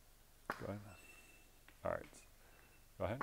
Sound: meter beeps

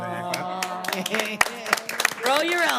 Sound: all clapping

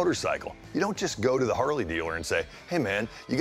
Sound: none

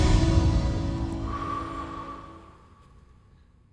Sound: breath

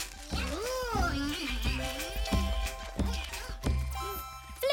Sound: continues chomping

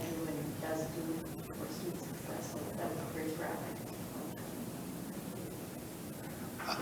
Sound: faintly speaks

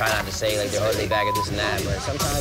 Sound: beep

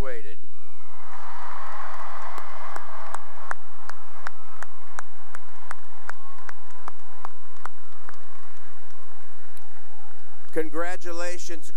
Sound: cheering and applause

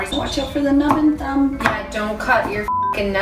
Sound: knives knocking; beeping

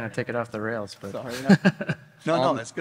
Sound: laughs

